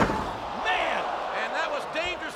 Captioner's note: crowd shouting